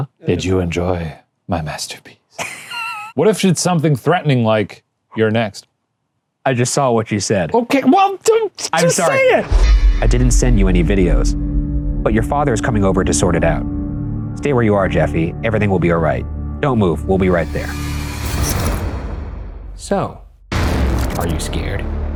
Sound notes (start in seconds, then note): 2.3 laughing